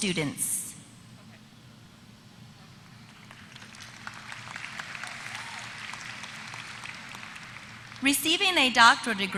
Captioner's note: applause